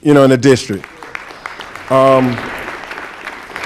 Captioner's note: applause